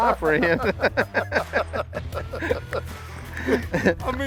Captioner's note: laughter